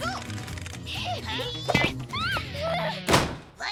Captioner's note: Tabitha screams; door slams